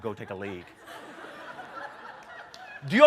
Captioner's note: laughter